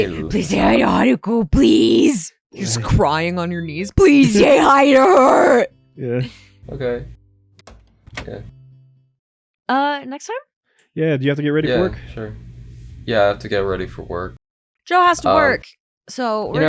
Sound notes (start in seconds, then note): none